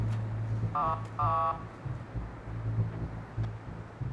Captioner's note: honking